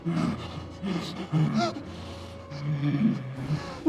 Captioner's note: Heather panting